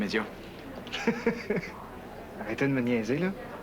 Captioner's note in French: Rire